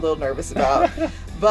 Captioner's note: laughs